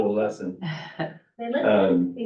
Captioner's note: laughter